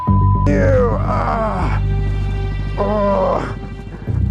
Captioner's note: beep; man groans